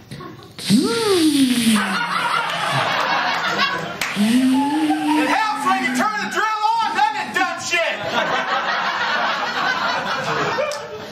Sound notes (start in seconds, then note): 0.6 electric drill sound effect; 1.9 laughter; 7.9 laughter